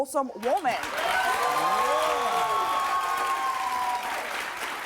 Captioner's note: audience applauds